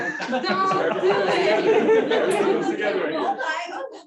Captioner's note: laughter